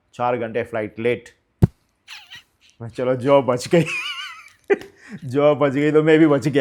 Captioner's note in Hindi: हंसी